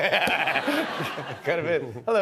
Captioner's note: laughter